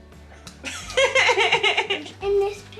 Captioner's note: laughing